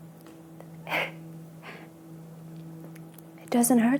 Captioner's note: sobs